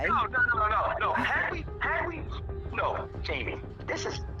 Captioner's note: on cell phone